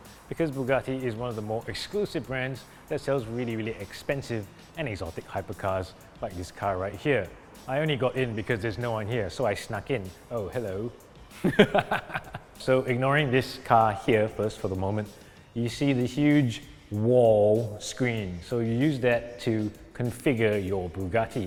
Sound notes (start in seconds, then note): 11.4 derpy laughter